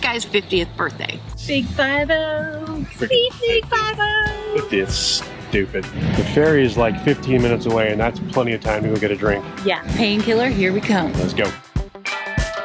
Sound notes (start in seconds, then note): 2.7 laughs